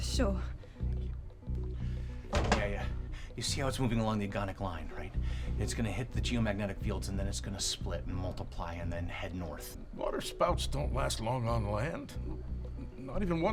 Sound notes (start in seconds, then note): none